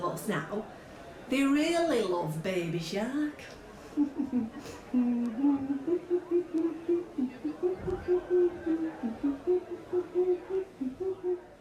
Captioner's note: hums